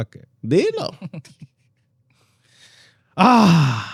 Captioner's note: laughter